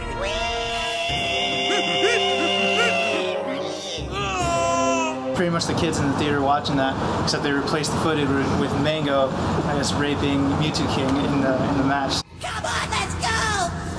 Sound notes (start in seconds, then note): 0.2 high-pitched squeal; 4.1 agonized yell